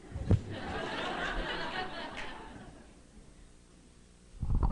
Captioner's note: laughter